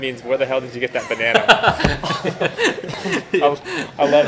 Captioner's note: laughing